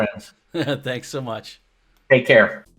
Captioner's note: chuckles